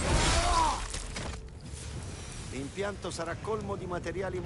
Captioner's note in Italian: urlo